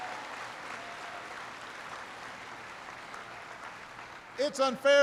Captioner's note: applause